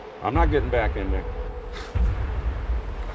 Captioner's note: scoffs